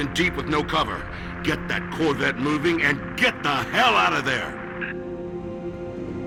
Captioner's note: radio